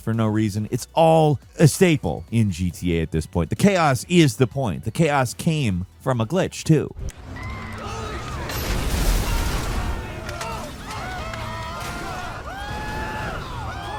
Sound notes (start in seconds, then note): 7.2 people screaming; 8.3 explosion blasts